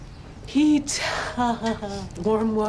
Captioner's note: laughs happily